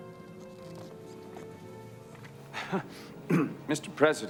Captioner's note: footstep